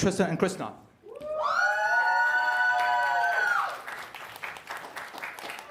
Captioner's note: cheers and applause